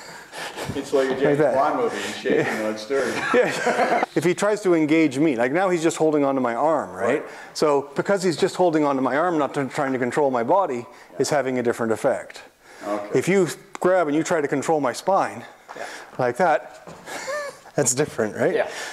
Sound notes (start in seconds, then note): 3.0 laughter